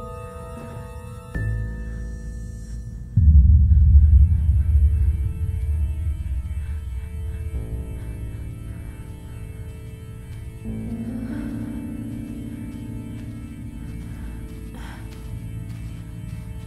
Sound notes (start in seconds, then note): 1.6 Quinn breathes rapidly; 1.6 suspenseful music; 9.3 footsteps pattering